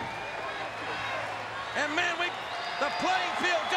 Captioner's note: applause